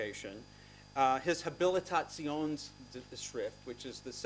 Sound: non-english speech

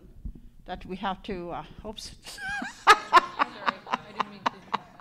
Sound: laughs

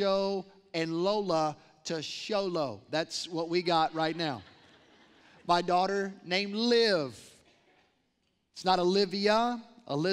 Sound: laughter

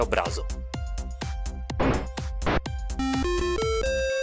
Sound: gunfight

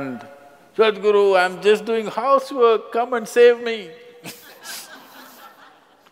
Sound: laughter

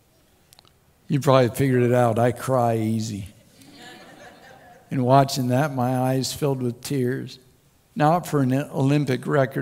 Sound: crowd Laughs

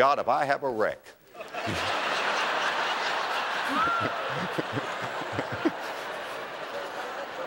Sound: audience laughter

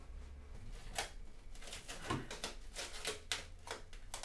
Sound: unwrapping plastic wrap

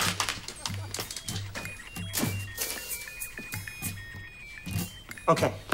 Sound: arcade noises

